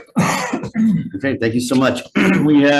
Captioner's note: coughs